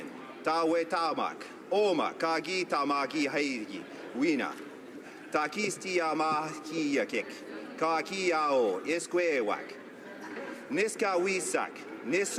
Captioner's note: speaking native language